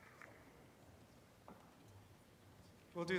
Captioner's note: none